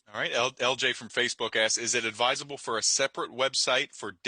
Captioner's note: none